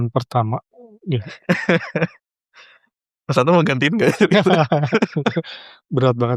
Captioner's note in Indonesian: tertawa